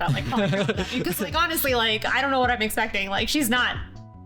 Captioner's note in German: beide lachen